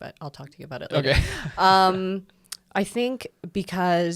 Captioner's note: laughs